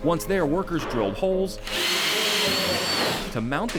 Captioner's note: drilling